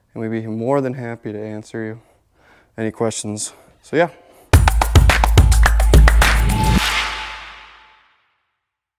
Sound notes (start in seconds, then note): 4.5 upbeat music; 7.2 graphics slapping